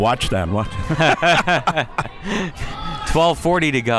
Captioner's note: laughs